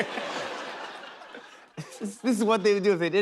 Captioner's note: laughter